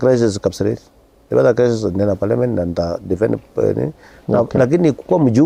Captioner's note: mumblings